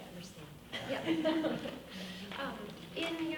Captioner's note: laughing